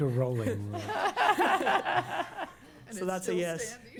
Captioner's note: laughter